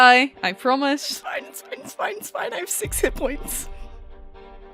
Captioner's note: strained